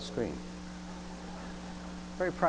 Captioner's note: audience laughing